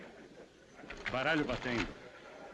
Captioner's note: cards rattling